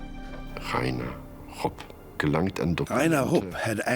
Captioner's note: man speaking German